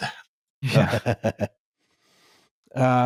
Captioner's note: laughs